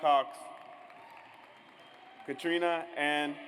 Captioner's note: audience applauds